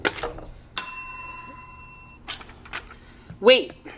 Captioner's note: bell dings